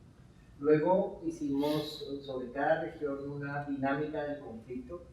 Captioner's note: speaking in Spanish